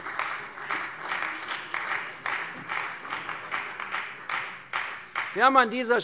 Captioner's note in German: Beifall bei der CDU und der FDP